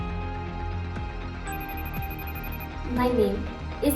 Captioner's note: phone rings